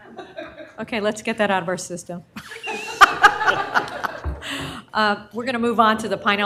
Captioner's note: laughter